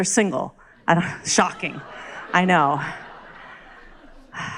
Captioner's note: crowd laughs